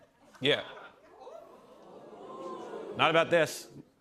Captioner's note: audience "Ooh's"